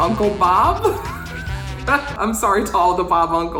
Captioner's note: laughs